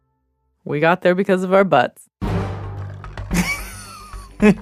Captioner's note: laughs